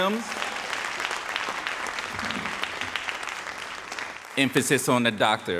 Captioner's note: audience applauding